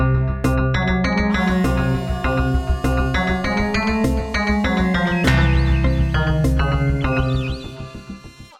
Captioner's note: shouting out in agony